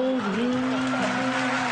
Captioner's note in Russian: Аплодисменты